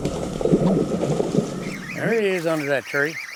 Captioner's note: reeling sounds